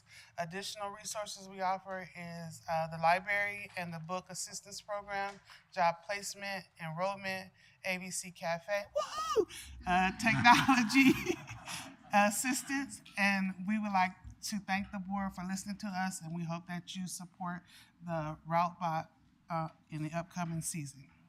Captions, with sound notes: Additional resources we offer is, uh, the Library and the Book Assistance Program, Job Placement, Enrollment, AVC Cafe (cheer), uh, Technology (laughter) Assistance and we would like to thank the Board for listening to us and we hope that you support the Route Bot, uh, in the upcoming season.